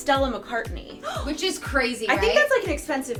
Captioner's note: gasps